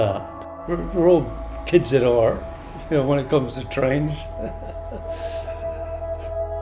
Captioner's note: laughs